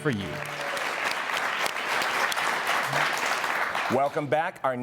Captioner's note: audience applauding